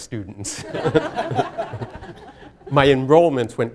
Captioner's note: laughter